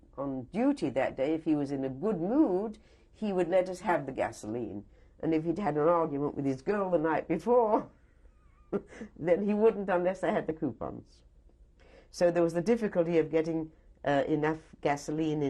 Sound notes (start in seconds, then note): 8.4 laughs